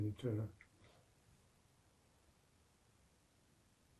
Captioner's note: pauses 6 seconds